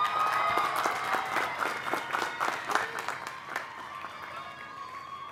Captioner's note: applause